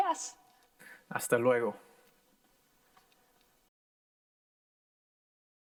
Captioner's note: in foreign language